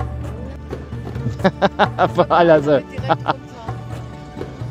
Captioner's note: laugh; speaking German